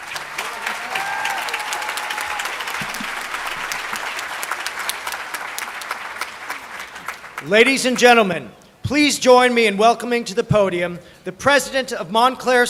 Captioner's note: applause